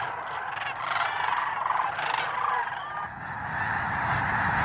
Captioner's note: birds squawking